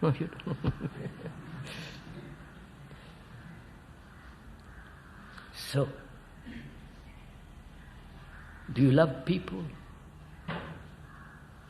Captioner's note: laughs